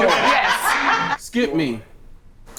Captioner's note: laughs